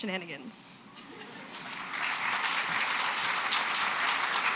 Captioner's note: applause